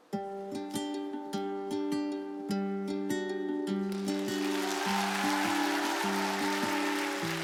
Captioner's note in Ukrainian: оплески